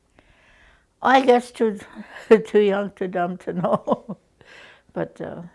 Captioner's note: chuckles